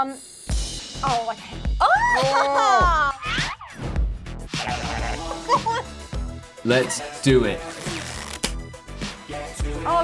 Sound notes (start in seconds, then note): 1.8 screaming; 4.5 wacky noises; 7.6 ripping